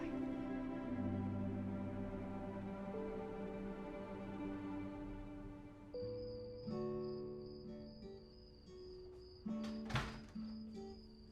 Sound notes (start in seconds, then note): 5.1 crickets chirping; 9.6 door rattles